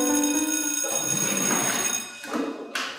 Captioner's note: school Bell